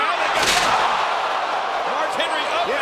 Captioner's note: crowd exclaiming; wrestlers slamming